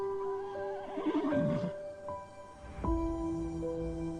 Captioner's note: horse neighing